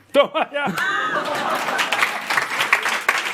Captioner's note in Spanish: Risas y aplausos